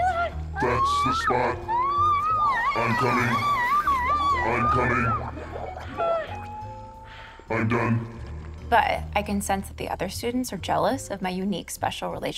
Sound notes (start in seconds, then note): 5.1 screams, pants